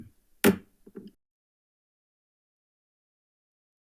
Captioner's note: gavel bangs